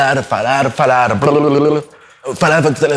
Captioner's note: makes sounds with mouth